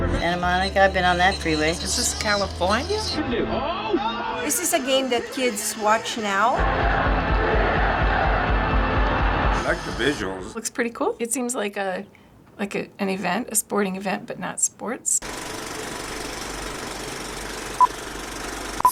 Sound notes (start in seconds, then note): 3.1 commentators shouting; 6.6 crowd cheering and chanting; 15.1 movie reel clicks